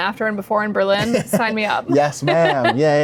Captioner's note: laughs